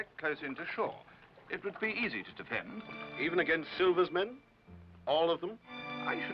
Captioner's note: doctor's voice